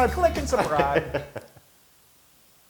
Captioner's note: laugh